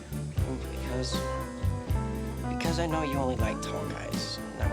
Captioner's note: none